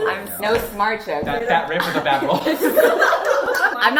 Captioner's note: nonsensical babbling